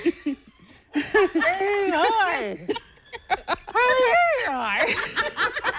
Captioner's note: laughter